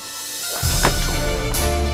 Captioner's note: fist punch